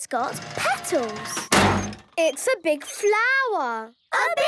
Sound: crane beeping

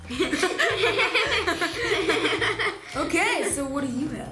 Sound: laughter

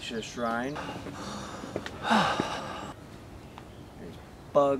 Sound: exhausted breath

